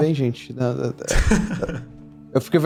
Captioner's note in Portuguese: risos